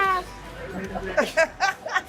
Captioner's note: laughter